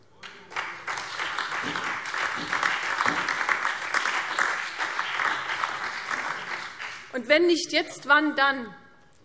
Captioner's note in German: Beifall CDU und BÜNDNIS 90/DIE GRÜNEN - Zuruf AfD